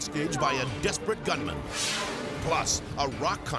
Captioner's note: graphics whooshing